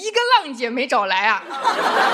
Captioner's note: laughs